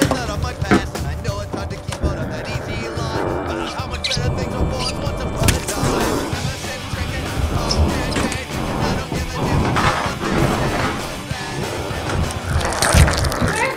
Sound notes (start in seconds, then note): 1.4 zombie growling; 4.2 footsteps squeaking; 6.4 wood cracking; 12.5 flesh tearing